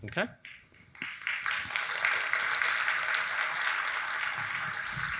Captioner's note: audience applauding